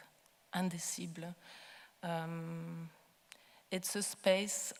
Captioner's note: speaking foreign language